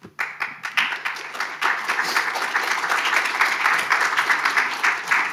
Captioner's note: audience applauding